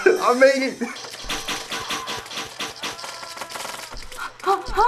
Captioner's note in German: Pfeile fliegen; Effektive Shopper schreit; Kichert nervös